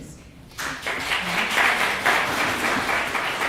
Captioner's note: clapping